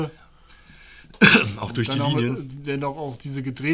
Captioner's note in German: Hust